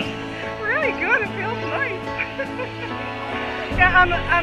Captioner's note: laughter